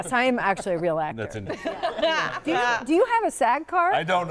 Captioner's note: all laughing